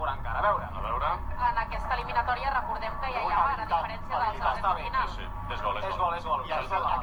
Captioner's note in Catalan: polaco